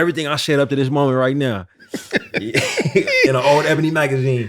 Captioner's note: laughter